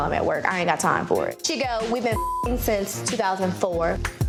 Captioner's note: beep